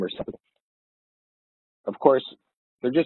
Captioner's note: audio distorts